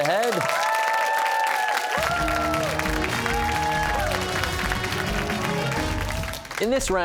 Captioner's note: cheers and applause